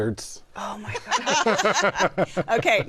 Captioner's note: laughter